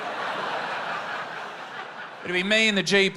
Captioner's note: laughter